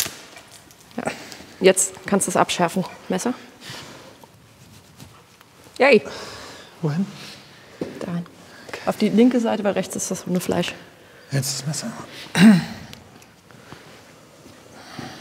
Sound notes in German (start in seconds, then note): 12.3 Räuspern